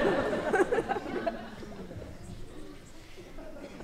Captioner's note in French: rires